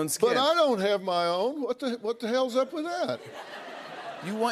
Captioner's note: laughter